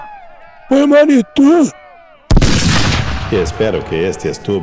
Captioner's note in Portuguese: grito